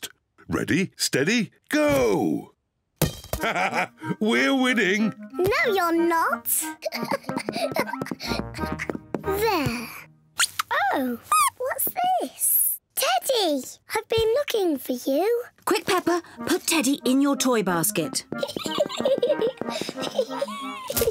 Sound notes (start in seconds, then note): 3.4 laughs; 6.8 giggling; 9.8 squeaking; 18.3 laughs